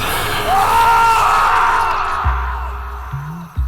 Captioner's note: loud rattling breath; screaming